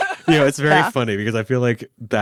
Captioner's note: laughs